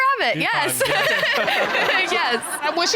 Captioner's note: audience laughing; chuckles